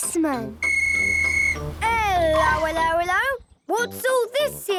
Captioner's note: whistle blowing